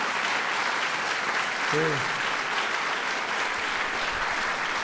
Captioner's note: applause